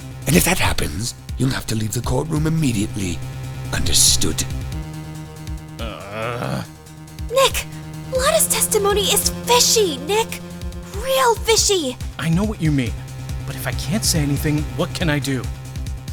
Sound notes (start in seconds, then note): 5.8 low frustrated growl